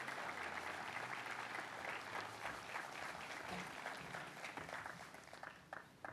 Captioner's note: applause